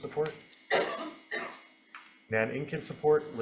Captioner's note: person coughs